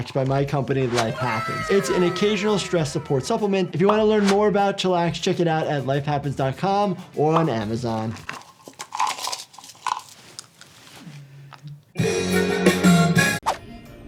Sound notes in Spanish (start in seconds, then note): 7.9 pastillas tintineando; 11.9 música alegre